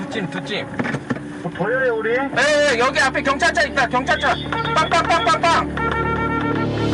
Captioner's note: honks the horn